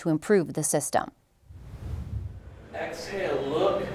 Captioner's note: transition whooshing